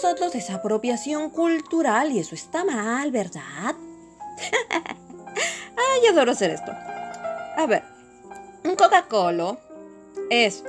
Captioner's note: laughs